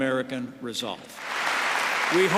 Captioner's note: applause